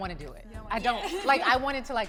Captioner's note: laughing amusingly